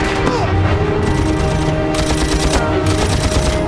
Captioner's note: grunting